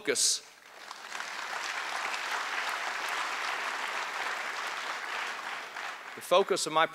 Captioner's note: applause